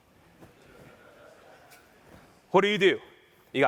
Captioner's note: laughter